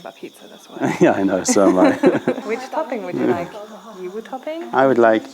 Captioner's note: laughter